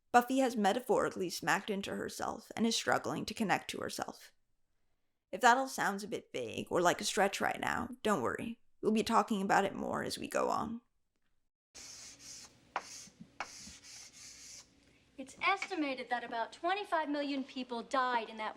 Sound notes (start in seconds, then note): 11.7 chalk scrapes and clacks on blackboard